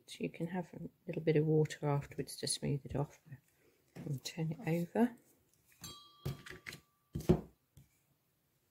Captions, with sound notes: you can add a little bit of water to smooth it off, then turn it over. [peace bell]